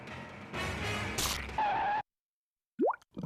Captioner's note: skidding